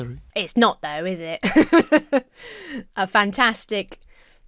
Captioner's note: laughs